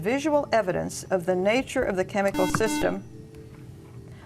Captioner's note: buzzer